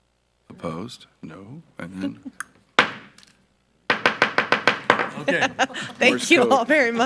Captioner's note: gavel thumping